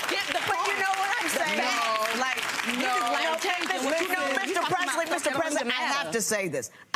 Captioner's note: audience applause drowns out words